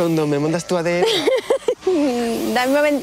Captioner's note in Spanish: Risas